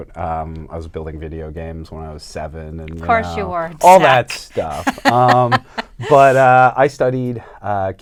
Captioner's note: laughter